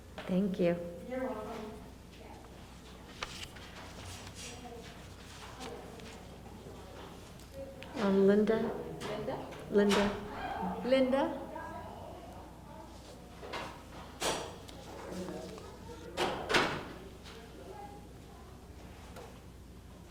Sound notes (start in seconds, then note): 4.8 papers flipping; 14.5 door closing